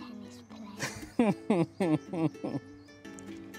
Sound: laughs

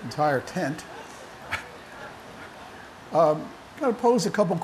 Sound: laughter

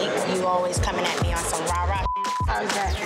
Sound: beep

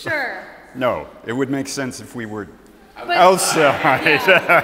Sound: laughs

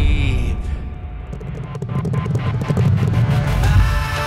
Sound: horses Galloping

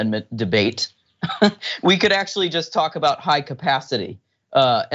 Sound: laugh

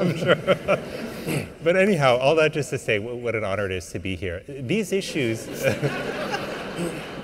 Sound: laughter

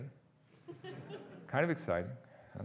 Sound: audience laughing

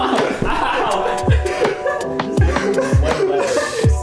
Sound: laughing

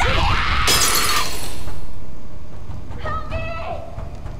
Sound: glass shattering

